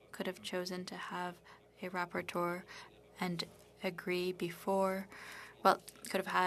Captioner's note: speaking French